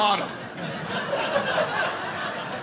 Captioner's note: audience laughing